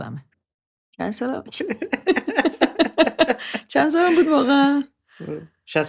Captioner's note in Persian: خنده